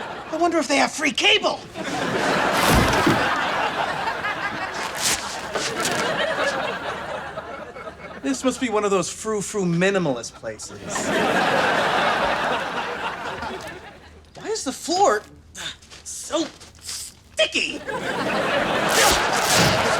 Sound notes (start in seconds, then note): 0.0 laughs; 1.8 laughs; 4.6 sticky sounds; 10.9 laughs; 17.8 laughs